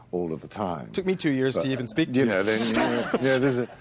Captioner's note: laughing